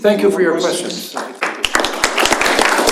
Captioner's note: applause